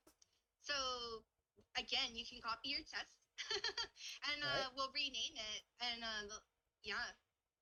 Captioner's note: laughs